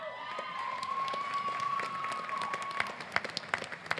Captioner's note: applause